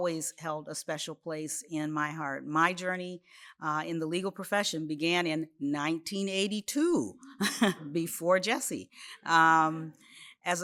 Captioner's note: laughs